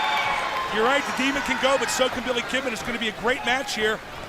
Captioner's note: crowd cheering